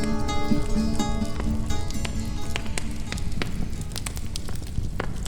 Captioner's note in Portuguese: Som de criptar de chamas